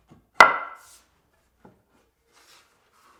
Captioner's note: board thuds